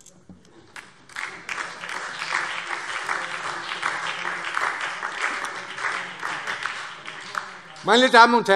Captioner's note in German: Beifall DIE LINKE, SPD und vereinzelt CDU